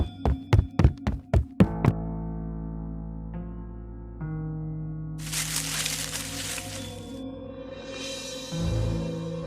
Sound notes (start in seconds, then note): 5.2 leaves rustling